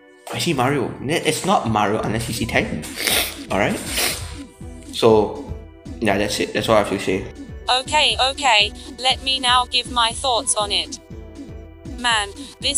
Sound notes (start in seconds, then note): 3.7 sniff